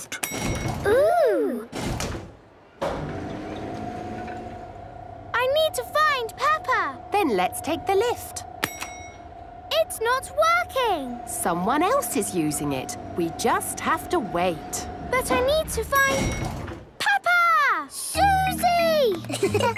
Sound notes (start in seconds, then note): 0.2 lift pings; 2.8 lift moving; 8.9 lift pings